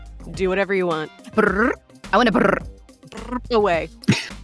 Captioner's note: trills; trills